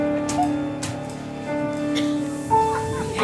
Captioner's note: bags squish; bag rustles